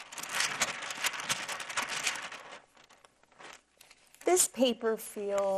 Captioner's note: parchment paper rattling